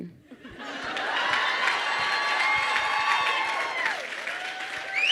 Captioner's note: crowd cheers and applauds